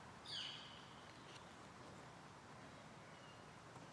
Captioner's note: birds chirping